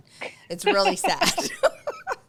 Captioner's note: laughs